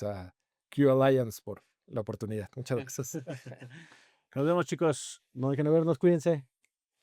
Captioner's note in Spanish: risas